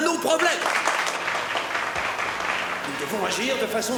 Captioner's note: all applause